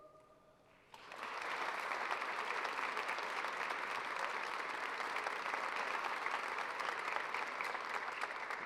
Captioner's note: applause